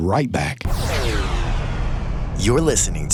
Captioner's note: whoosh